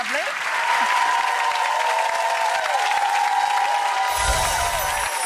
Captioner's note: audience applauds and cheers